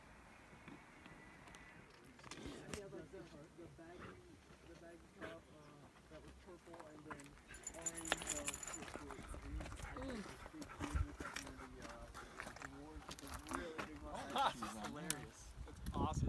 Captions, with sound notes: (dog panting) - Ha that's awesome!